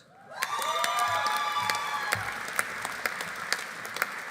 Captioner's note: audience cheering; audience applauding